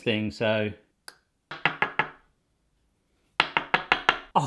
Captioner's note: knocking